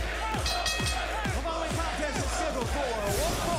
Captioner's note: bell ringing